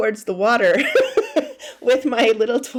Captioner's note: laughing